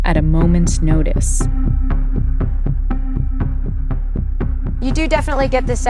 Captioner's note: soundbite of archived recording